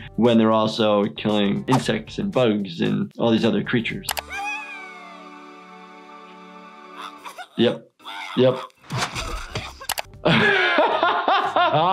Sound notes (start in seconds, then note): 4.2 Toothy cheering; 7.1 animal coughing; 8.7 animal vomiting; 10.2 laughing